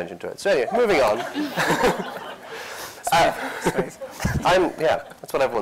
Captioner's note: laughter